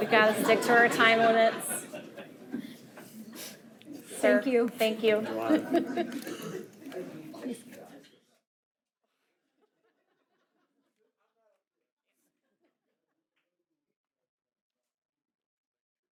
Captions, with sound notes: We got to stick to our time limits, sir. - Thank you. - Thank you. (board members and attendees chuckle)